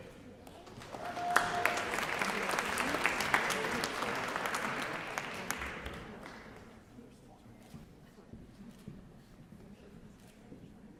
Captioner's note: applause